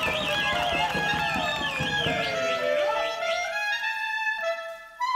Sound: performer whistling; audience applauding; clarinet playing solo

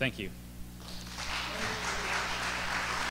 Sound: applause

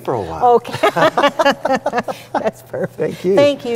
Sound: laughs

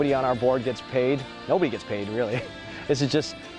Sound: laughs

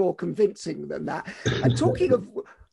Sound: chuckles

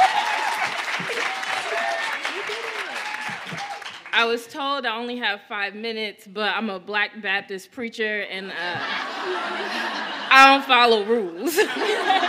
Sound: cheers and applause

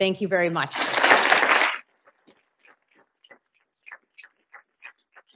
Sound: audience applauding

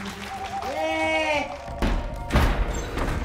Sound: Baba yells

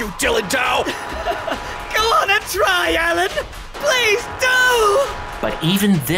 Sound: chuckles

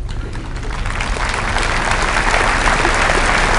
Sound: applause

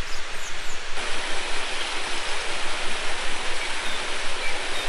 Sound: waterfall

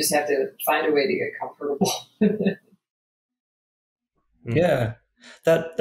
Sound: laughing

